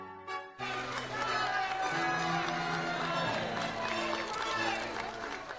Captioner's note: crowd cheering; voiceover